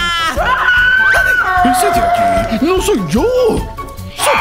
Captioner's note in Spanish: Gritos